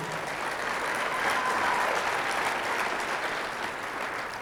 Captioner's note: audience applauding